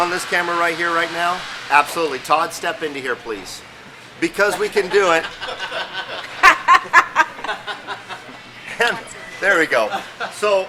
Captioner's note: laughing